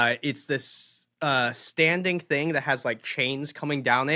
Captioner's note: none